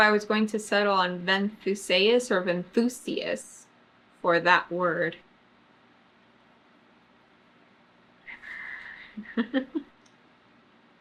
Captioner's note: laughs